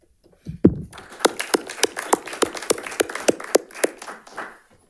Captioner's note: audience applauding